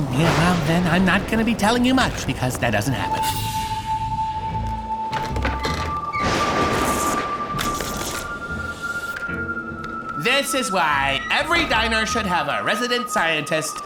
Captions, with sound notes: I'm not gonna be telling you much because that doesn't happen. [door creaks] [thunder clap] This is why every diner should have a resident scientist.